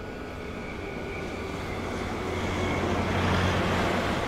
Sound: engine revving

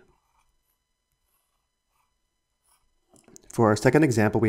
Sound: pencil scratching

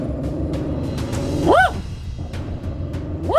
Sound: growling; woof; growling; woof

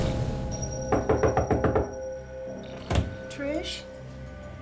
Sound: knocking

